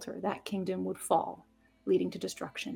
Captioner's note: none